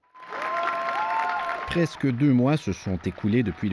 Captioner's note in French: applaudissements